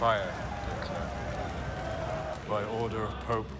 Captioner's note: crowd screaming